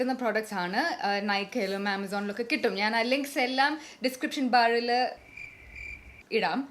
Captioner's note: crickets